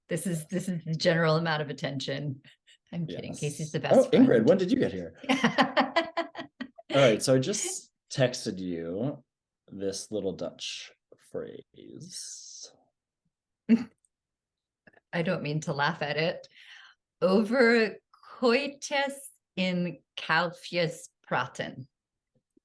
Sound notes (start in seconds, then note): 5.2 laughter